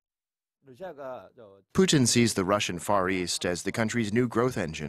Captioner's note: Korean